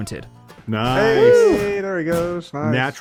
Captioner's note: group cheers